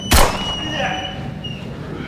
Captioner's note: gun bangs